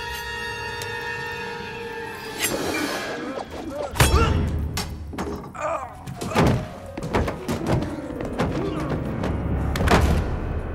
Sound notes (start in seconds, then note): 3.4 thudding; 5.2 groaning, thudding